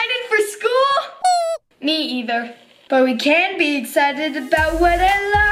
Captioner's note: squeaking